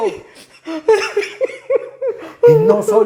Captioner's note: crying